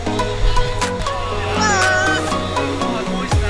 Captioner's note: group exclaims